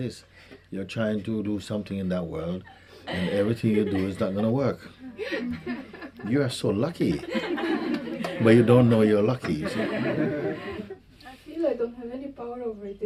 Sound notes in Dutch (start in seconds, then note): 9.4 gelach